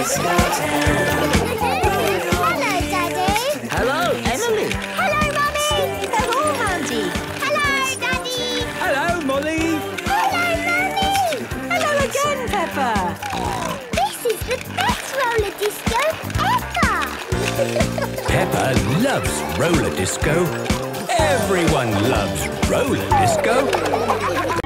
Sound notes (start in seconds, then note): 12.5 snorting; 23.0 laughter